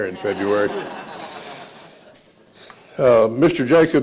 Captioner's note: laughter